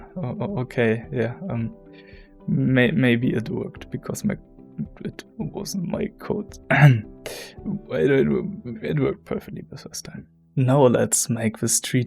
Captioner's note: cough